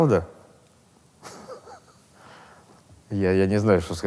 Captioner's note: Burunov laughs